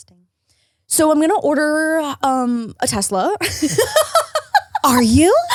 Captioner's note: laughs